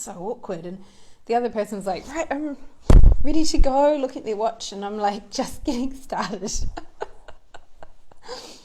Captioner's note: laughs